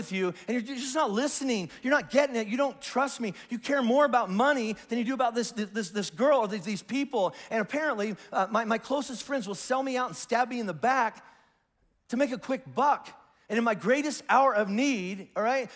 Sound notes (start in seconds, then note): none